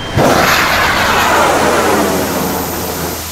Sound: sound of rocket launching

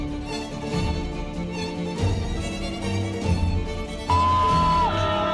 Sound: dramatic music; cheering

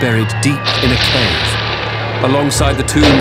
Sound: guns roaring

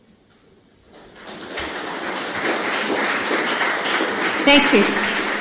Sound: audience claps

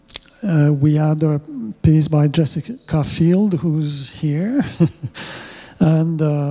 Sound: chuckles

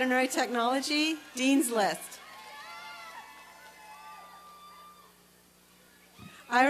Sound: applause and cheering

